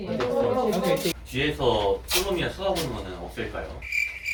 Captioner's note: speaks in Korean